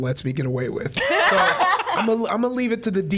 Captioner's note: other laughing vociferously